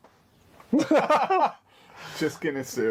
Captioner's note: both laughing